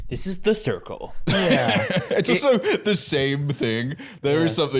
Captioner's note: laughs